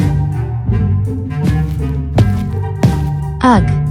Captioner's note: footsteps